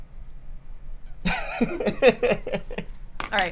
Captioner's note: laughs